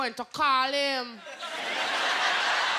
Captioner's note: laughter